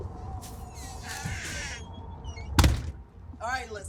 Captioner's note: door squeaking and banging